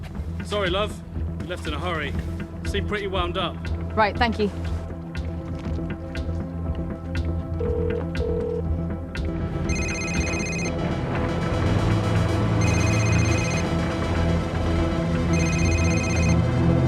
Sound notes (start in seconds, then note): 9.6 phone rings